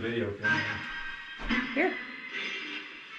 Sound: radio noise echoing

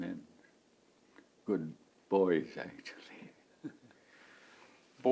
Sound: laughs

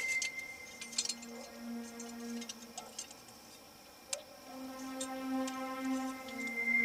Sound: ominous music playing; clinking sound; ominous music playing

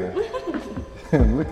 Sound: laughter

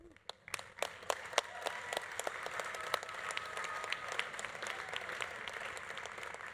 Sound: audience applauding; audience cheering

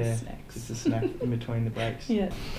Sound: laughter

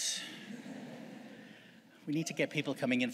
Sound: audience chuckles

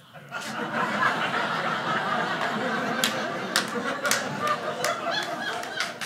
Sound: audience laughing

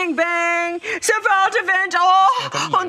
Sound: imitates German accent

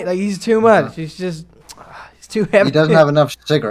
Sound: tsk

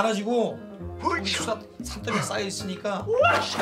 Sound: making sound effects

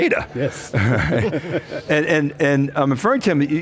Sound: laughs

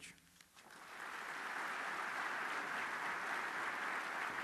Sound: applause

